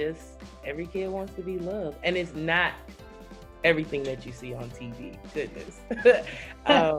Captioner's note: laughs